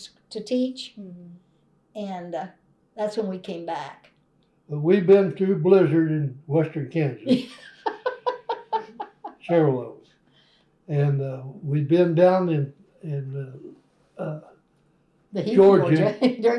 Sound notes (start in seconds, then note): 12.6 laughter